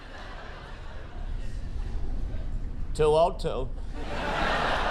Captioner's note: laughter